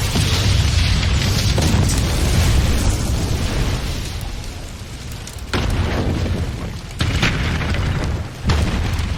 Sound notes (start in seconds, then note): 0.0 boom; 5.6 thud